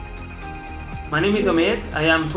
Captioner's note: phone rings